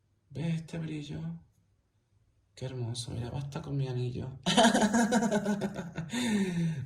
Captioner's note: laughs